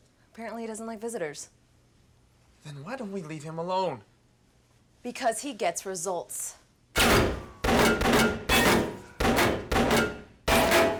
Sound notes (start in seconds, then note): 7.0 gunfire resumes